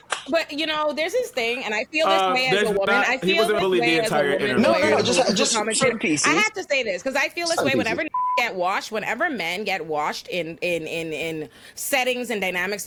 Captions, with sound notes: But you know, there's this thing, and I feel this man's a woman. I feel this man is a woman. He wasn't bullied the entire time. No, no, no, just championship pieces. I have to say this, because I feel this way whenever (beep) whenever men get washed in settings and dynamics